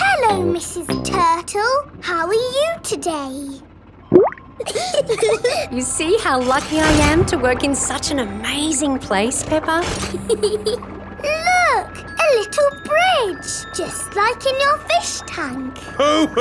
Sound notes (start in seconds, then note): 0.0 bubbling; 4.0 bubbles; 4.6 laughing; 10.0 peppa giggles